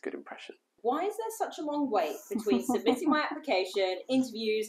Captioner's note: laughing